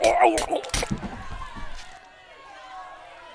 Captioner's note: stab, body falls limp